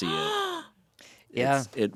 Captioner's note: gasps